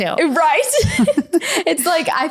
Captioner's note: laughing